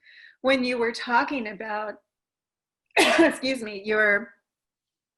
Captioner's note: cough